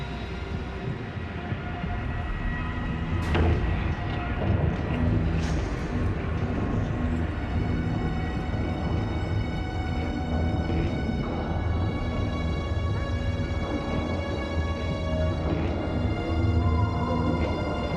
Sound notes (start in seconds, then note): 3.1 footsteps